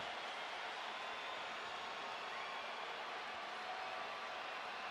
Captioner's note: cheers